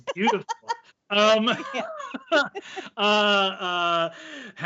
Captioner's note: laughing